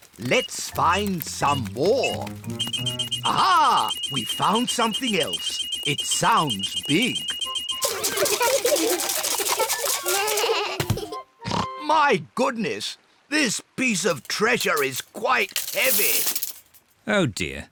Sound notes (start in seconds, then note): 0.0 beeps slowly; 0.3 beeps quickly; 5.6 all laugh; 8.9 oinks